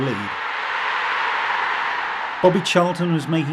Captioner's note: crowd roaring